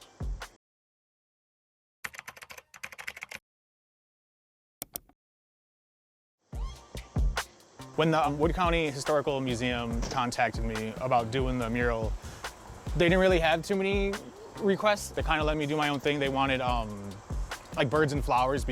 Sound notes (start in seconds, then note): 2.1 keyboard clacking; 4.8 mouse clicks; 6.4 rhythmic music